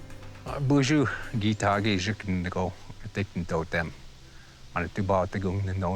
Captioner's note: speaking Ojibway